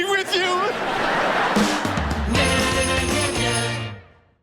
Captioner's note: audience laughter